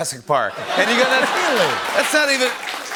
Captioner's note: laughter